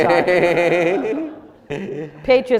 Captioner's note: laughing